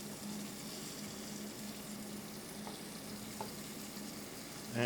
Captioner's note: knife chops